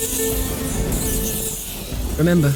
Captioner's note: rats squealing